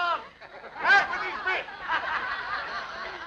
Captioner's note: laughter